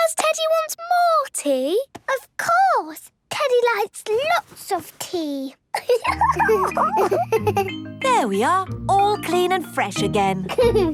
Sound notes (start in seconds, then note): 5.7 giggles; 10.5 giggles